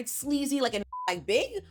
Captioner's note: beep